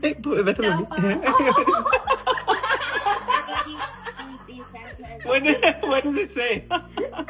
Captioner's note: loud laughter